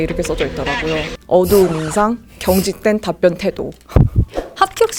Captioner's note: laughs